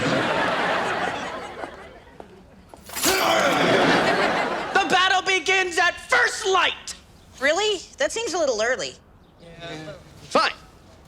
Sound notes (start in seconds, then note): 0.0 audience laughs; 2.7 growls